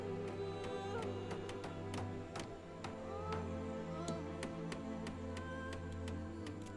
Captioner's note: hammering